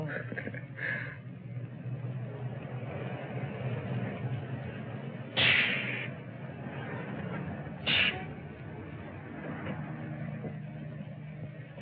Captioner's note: laughs